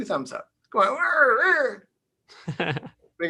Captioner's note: chuckles